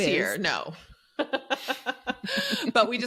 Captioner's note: laughing